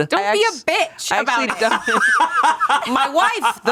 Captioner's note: everyone laughs